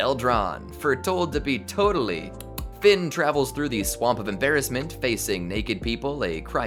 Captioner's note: click-click